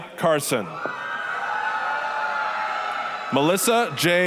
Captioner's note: applause, cheering